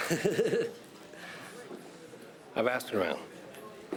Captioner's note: Rene laughs